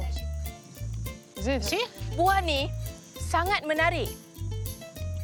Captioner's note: foreign language